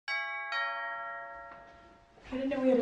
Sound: doorbell rings

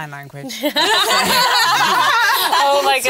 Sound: laughter

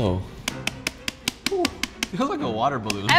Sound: rapid tapping

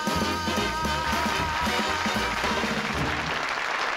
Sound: applause

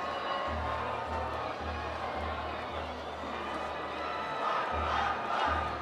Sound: cheers

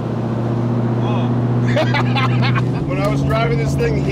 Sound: laughs

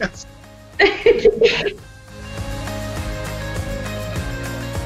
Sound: family laughs; relaxed light music continues

